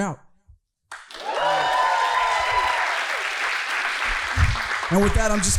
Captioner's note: audience cheering